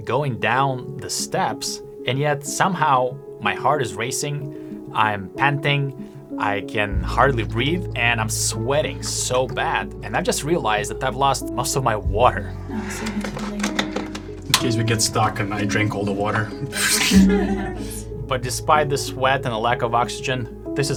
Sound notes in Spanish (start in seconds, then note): 12.6 respirando pesadamente; 16.0 riendo; 16.0 ríe